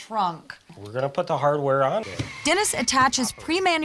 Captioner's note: drilling sound